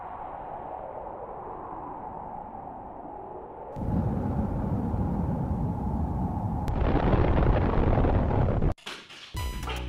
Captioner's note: explosion